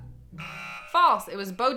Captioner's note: buzzer sounds